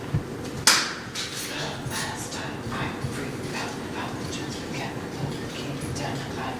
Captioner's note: whispers